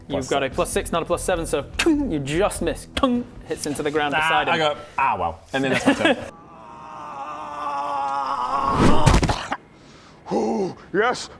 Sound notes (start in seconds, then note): 6.3 unconscious screaming; 8.5 splat